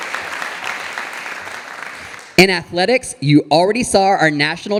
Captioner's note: audience applauding